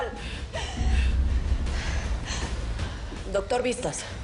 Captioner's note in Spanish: Sollozos